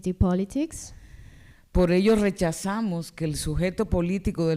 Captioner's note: speaking spanish